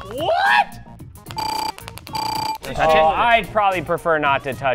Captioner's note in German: dinging